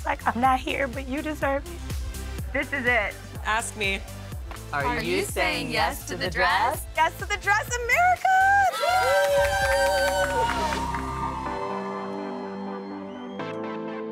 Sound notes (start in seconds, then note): 8.6 crowd cheers; 11.5 happy music